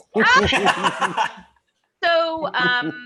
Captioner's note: laughs